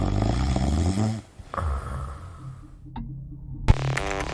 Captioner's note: William snores